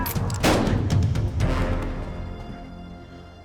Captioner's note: fires gunshot; gunshot